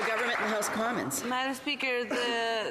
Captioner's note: some Applause